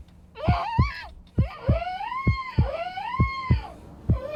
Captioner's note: thudding heartbeat